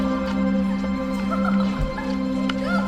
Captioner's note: laughter